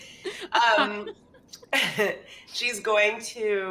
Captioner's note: laughs